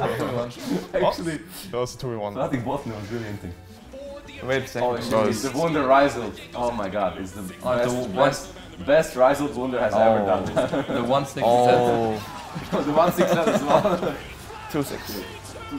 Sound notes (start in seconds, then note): 14.0 laughs